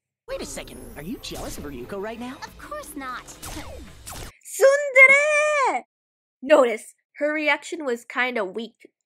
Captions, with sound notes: 【[sparkle] -Wait a second, are you jealous of Ryuko right now? -Of course not! Heh. [laser beams]】 TSUNDEREEE! NOTICE, her reaction was kinda weak,